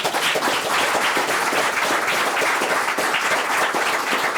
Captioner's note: members applauding